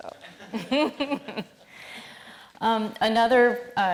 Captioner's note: all laughing